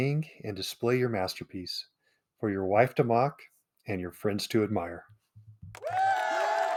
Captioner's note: cheers